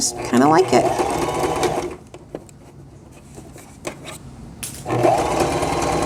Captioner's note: sewing machine whirring